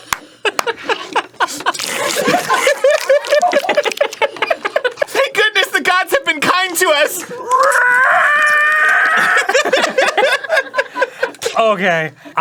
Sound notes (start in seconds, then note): 0.8 egregious slurping; 6.6 screeching